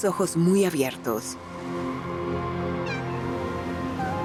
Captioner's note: maullido